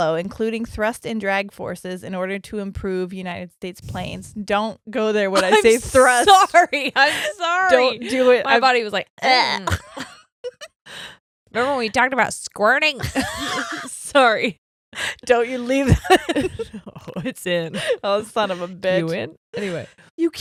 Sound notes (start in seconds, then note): 5.4 chuckles; 5.4 laughs; 9.7 both laughing; 13.0 both laughing